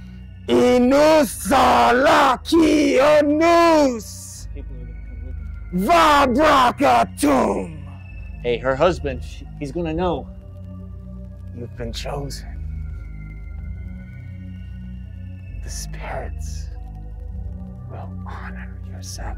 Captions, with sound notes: [Ezra muttering] [killer speaking in foreign language] Hey, her husband, he's gonna know. - You've been chosen. The spirits will honor your sacrifice.